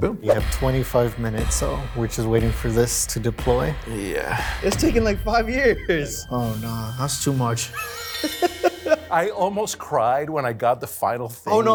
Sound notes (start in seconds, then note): 7.7 laughs